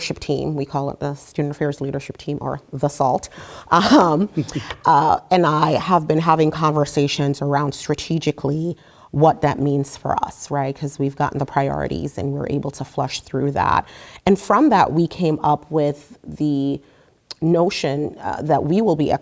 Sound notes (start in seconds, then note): 3.7 laugh